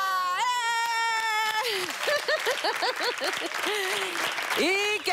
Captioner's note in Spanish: Exclamaciones